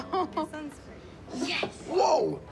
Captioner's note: laughs